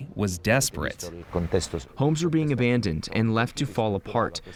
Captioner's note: through translator